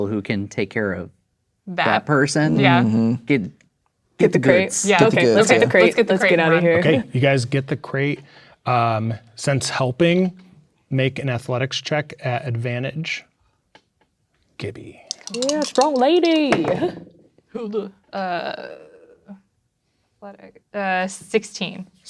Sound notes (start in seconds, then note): 15.0 dice rattling; 16.7 dice rolling